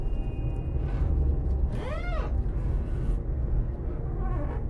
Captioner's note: glass squeaking